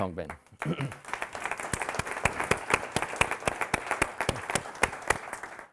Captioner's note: audience applauding